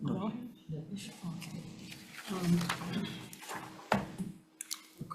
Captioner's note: papers rustling